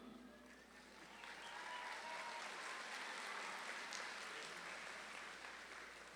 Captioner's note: audience claps and cheers